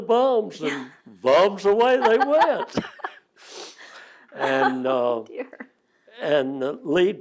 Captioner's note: laughter